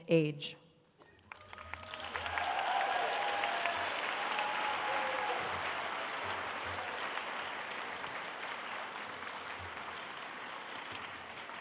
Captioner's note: applause